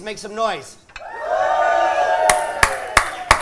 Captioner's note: cheers